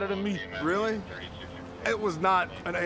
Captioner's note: dispatch radio chatter